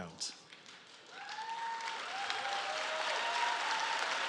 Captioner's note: applause